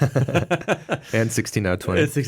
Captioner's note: both laughing